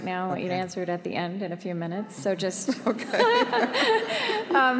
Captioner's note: laughter